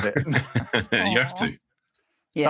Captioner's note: laughing